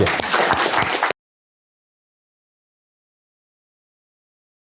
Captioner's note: applause